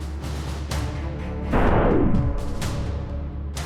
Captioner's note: slo-mo bullet